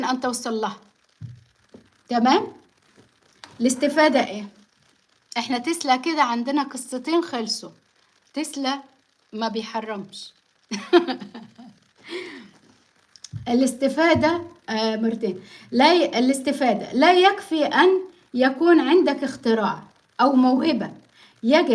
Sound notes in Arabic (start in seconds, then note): 10.7 ضحك